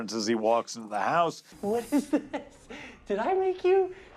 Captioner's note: laughing